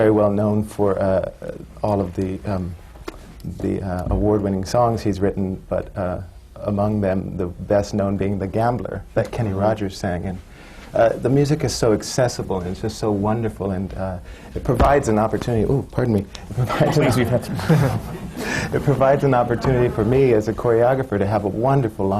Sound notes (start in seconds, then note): 14.7 hits his mike